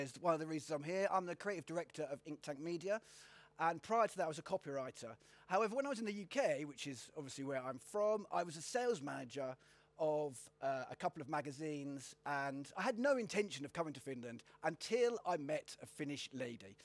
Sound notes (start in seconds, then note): none